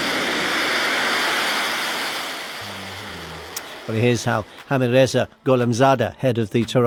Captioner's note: missiles firing